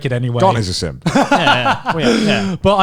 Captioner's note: laughs